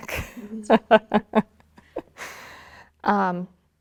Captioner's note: host laughing